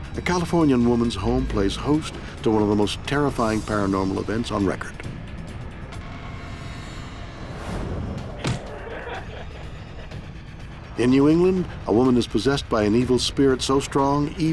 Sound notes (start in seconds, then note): 8.4 voice laughs; 8.4 body thuds